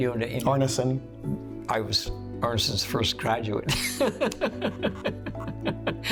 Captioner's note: laughing